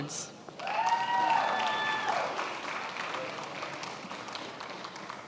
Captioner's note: attendees applauding